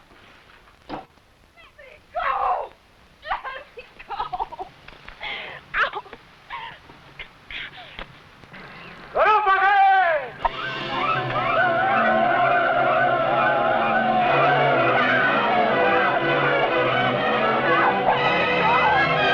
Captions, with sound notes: Let me go! (cries) Let me go! Ow! (man shouting in foreign language) (men shouting) (suspenseful music) Stop them, let me go!